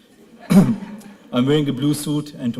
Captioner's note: laughter